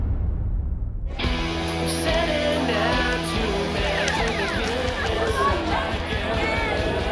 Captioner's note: rock music playing; partygoers chattering